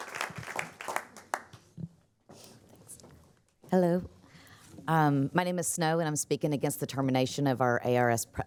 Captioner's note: applause